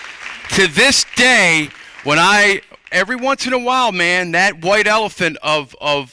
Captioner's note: applause